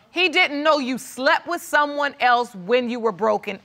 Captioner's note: none